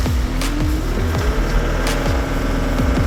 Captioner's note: skidloader engine